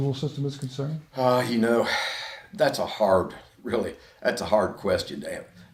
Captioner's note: sighs